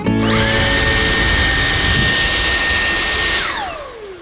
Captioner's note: vacuum whines